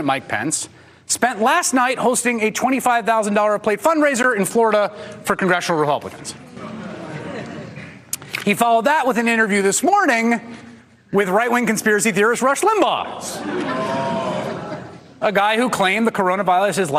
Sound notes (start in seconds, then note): 13.2 audience reacts